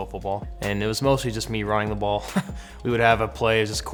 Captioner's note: chuckles